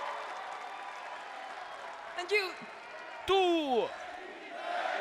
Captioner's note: applause